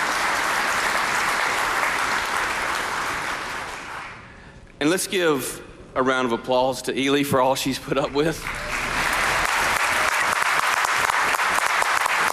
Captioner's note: applause